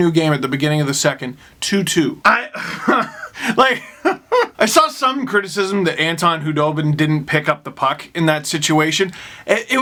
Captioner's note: sigh